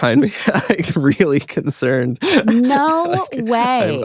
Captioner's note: laughs